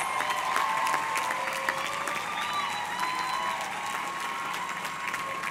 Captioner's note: audience cheering